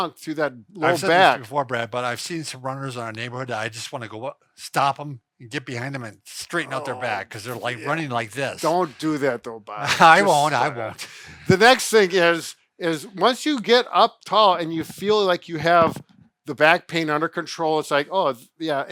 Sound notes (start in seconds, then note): 6.7 groans